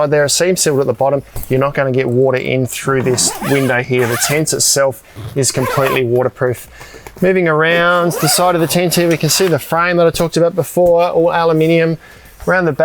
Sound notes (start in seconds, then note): 2.8 zipper squealing; 7.9 zipper squealing